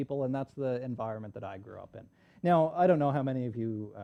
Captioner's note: none